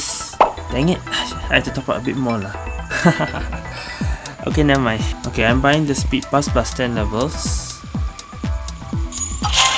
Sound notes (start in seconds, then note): 2.9 laughs